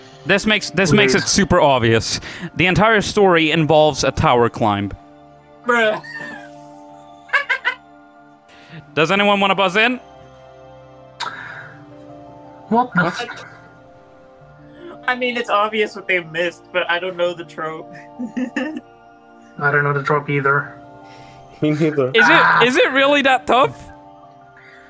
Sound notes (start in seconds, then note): 7.4 cackle; 18.0 laughs